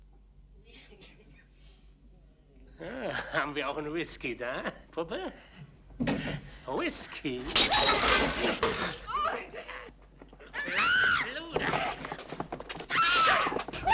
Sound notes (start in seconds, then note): 0.7 chuckling; 7.5 glass shatters; 10.5 woman screaming